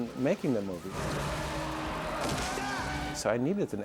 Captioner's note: brakes squeal